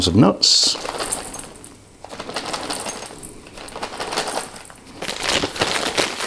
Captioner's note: rattling packet